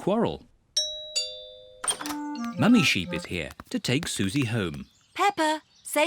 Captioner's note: doorbell rings